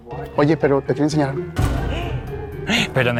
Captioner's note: gasp